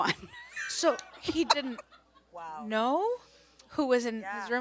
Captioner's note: laughs; audience moans